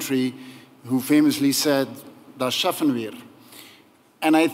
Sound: non-english speech

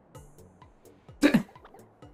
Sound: shocked giggle

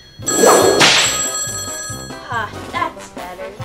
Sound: whip cracks

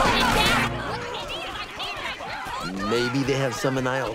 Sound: everyone arguing

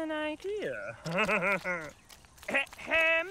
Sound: chuckles

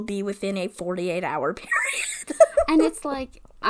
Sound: laughs

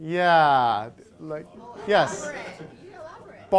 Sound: crowd

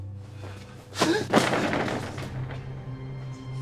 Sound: gasps

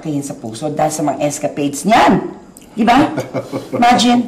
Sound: Eddie laughing

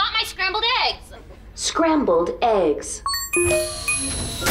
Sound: beeping

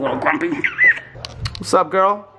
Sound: kissing

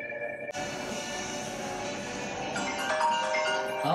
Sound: phone ringing

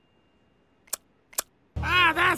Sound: affirmative tongue slaps

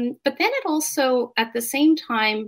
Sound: none

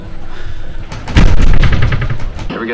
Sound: gunshot

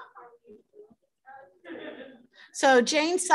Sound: laughter

